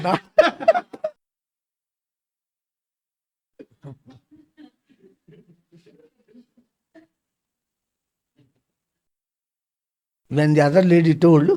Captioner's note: laughs